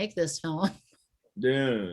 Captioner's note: laughs